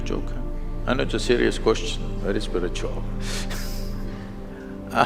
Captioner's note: laughs